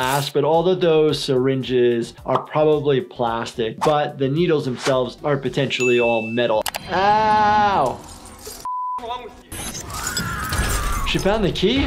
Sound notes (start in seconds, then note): 10.0 person screaming